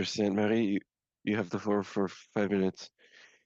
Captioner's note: speaking in French